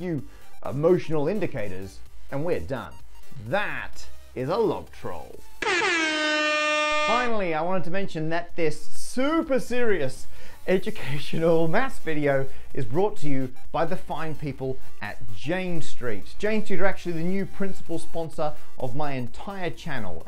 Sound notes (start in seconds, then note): 5.6 airhorn